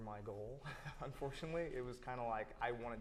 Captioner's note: chuckles